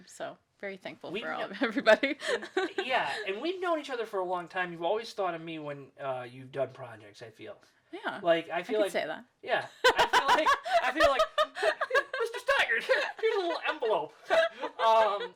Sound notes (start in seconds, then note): 9.8 laughing